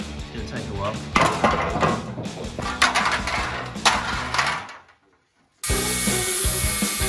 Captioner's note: metallic objects crash loudly; upbeat music